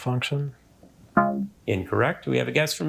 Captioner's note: womp chimes